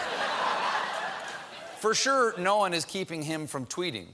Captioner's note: laughter